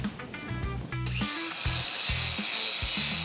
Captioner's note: grinding